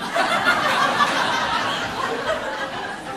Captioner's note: audience laughing